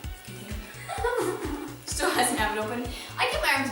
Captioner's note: laughter